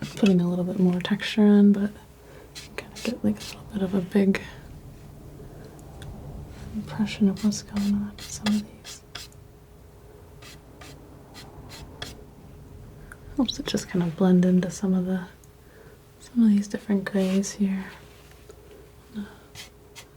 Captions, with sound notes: I'm putting a little bit more texture in, but I'm gonna get a little bit of a big impression of what's going on in some of these. (scratching) I'm also just gonna blend into some of these different grays here.